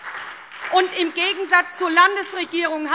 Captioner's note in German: Beifall SPD